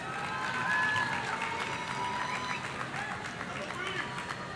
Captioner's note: audience clapping